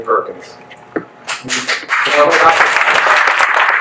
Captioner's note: guests cheer